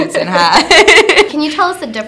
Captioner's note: laughter